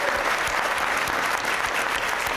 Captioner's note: applause